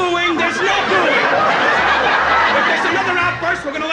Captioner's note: laughing